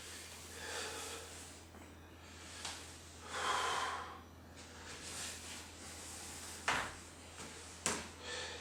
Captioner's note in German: Starkes Atmen